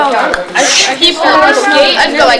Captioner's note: chatter; whooshes